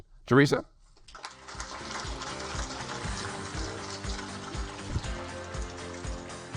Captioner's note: audience applaud; energetic music